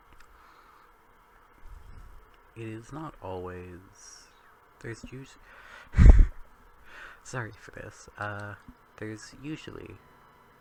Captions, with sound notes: It is not always... there's usually-- [laugh] Sorry for this... uh. There's usually,